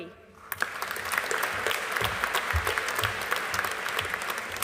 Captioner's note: audience applauding